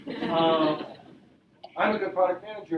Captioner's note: audience laughing